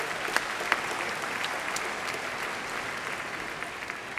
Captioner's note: applause